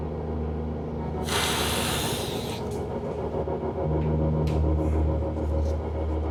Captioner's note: snorts